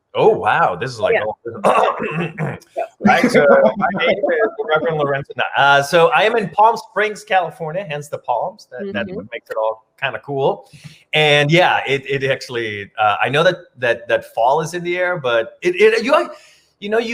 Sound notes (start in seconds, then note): 1.6 clears throat